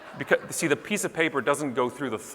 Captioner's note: audience laughing